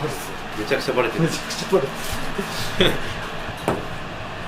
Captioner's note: laughs